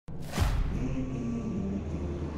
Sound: humming; engines revving

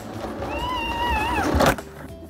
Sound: crash

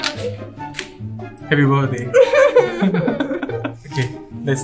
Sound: laughter

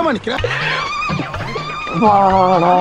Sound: laughs

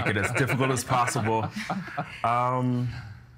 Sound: others laughing

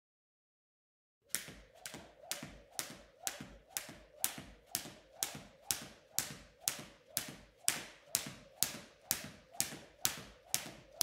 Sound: sound of striking jump rope

